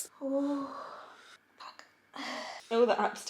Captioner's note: moaning